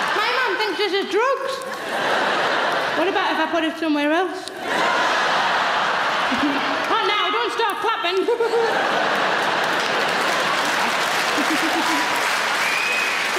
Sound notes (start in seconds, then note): 0.0 audience laughing; 4.6 audience laughing; 8.1 laughing; 10.3 audience clapping